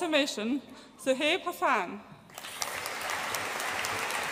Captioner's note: audience applauds